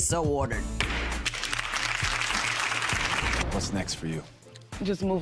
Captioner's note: crowd clapping; gavel bangs